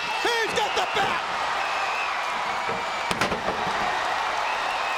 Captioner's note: crowd cheering